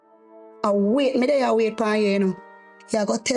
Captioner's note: speaking in foreign language